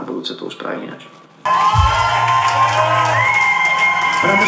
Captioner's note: crowd cheering